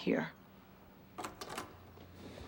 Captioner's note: front door opens